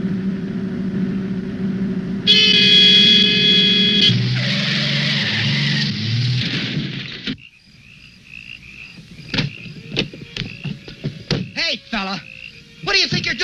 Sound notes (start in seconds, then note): 2.2 car honking; 4.5 breaks screeching; 7.2 crickets chirping